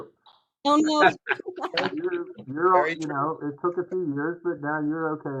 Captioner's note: laugh